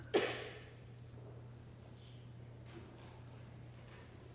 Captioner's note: audience member coughs